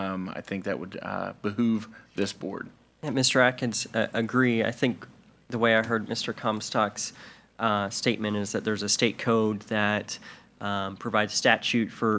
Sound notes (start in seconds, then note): none